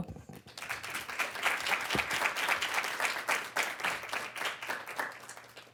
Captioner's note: audience clapping